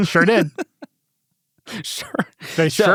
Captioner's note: laughs